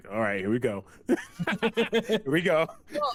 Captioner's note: laughter